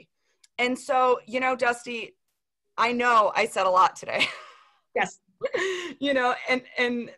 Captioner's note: laughter